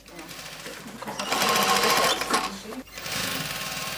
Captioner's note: metallic rattling, clanking